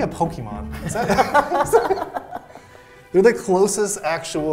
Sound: both laughing

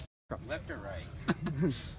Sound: laughing

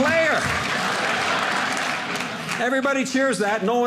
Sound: audience laughing

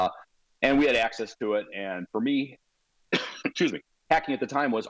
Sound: coughs

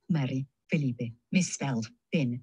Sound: speaking in foreign language

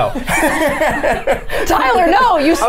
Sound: Safiya and Tyler laughing

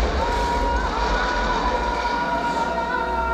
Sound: screams

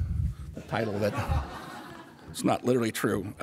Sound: audience laughter

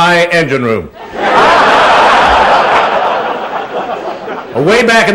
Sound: laughter

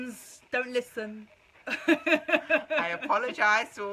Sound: laughing

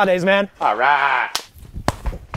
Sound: hand slaps; back slaps

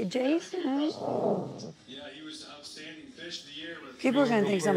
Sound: dog growling

